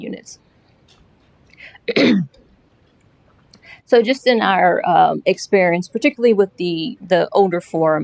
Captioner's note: clearing throat